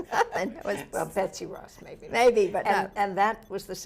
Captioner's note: laughs